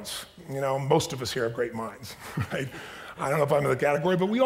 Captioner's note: chuckles